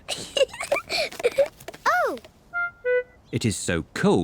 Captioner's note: giggles